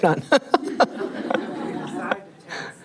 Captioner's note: laughing